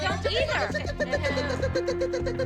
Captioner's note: makes chirping sound